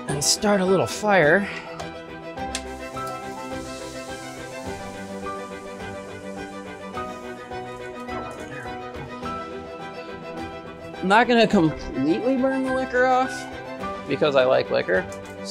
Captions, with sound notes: and start a little fire. (suspenseful music) (meat frying) Not gonna completely burn the liquor off because I like liquor.